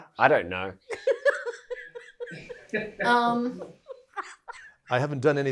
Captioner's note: Lucy laughs